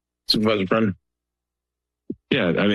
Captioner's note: silence